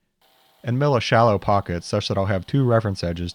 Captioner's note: mill whirring